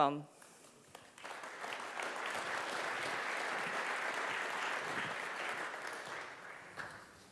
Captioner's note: applaus